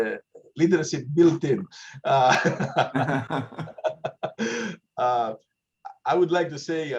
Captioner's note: laugh